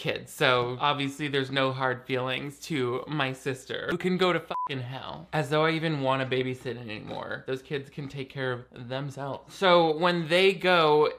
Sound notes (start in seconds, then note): 4.5 beep